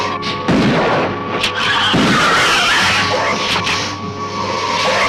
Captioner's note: lizard screeching